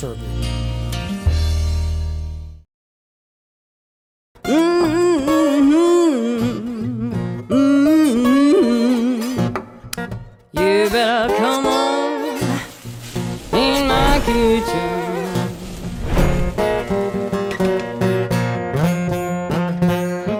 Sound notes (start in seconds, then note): 0.0 peaceful music; 4.5 singer hums; 16.7 easygoing blues music